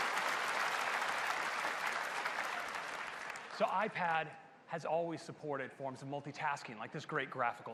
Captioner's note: applause